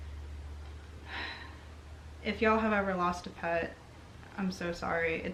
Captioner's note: sighs